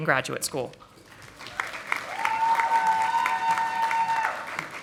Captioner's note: audience applauding